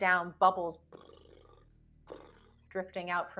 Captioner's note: mimics air bubbling